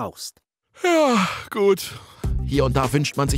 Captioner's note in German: gähnt